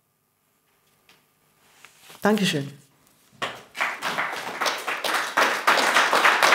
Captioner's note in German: Applaus